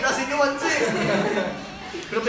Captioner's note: laughing